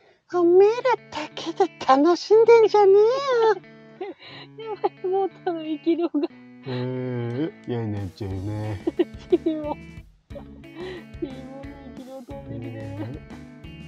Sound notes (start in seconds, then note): 4.0 laugh; 7.8 laugh